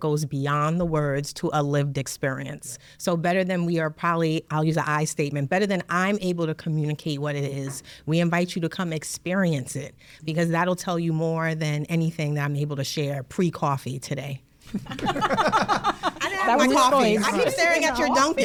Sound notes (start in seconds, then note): 14.6 laugh